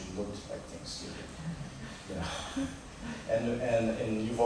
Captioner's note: laughter